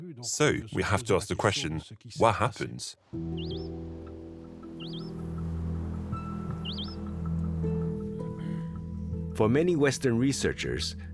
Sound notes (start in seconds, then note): 3.2 bird chirping